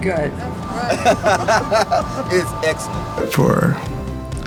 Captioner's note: laughing